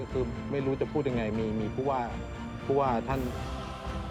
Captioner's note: speaking Thai